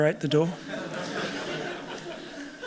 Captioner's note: laughter